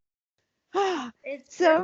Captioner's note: sighs